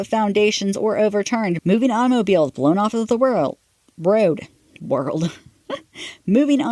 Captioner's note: laughs at self